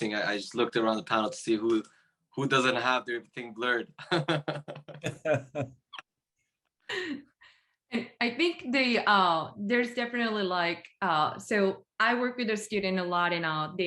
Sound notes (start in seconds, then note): 3.9 participants laughing